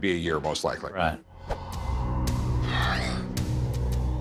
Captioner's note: sigh